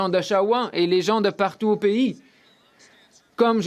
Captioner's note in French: voix de l'interprète